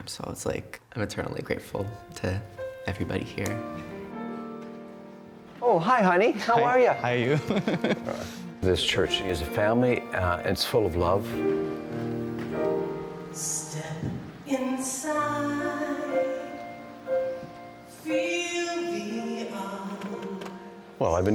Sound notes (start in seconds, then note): 7.2 chuckles